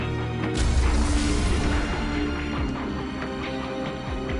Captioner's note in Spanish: Estruendo